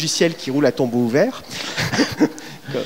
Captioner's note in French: rires